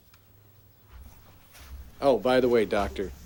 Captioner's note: footsteps crunching